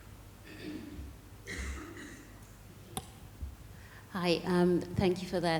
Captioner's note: audience member coughing